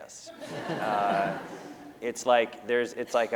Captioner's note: laughter